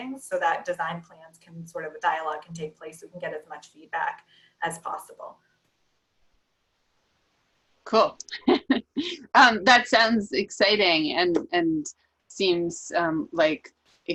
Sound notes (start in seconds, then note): 8.3 laughs